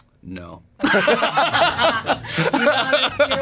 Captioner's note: laughter